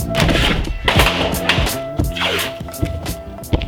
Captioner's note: fan clatters